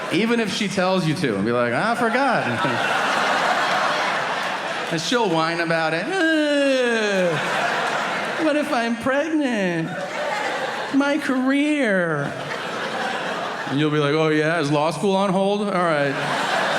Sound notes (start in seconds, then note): 2.7 audience laughing; 6.2 groans; 10.3 audience laughing